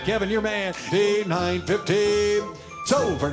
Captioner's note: auctioneering